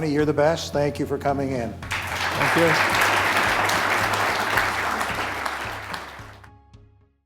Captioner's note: applause